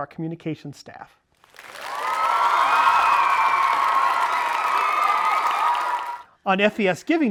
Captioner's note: audience cheering